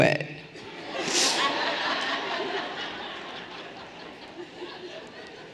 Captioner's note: everyone laughing lightly